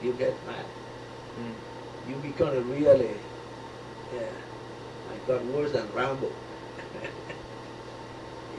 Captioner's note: laughs